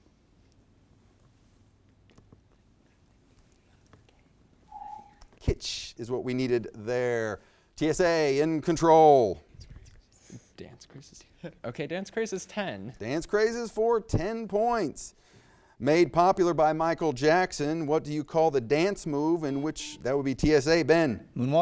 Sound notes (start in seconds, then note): 4.7 timer beeps; 11.6 laughs; 19.4 buzzer beeps